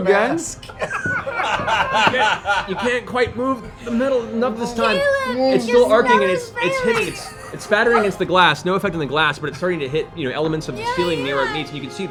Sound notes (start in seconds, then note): 0.6 laughter